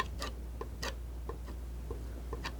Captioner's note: scratching